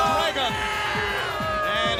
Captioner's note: crowd clamoring